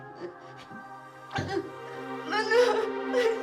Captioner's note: Mia crying; gentle music